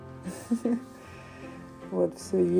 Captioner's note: laughs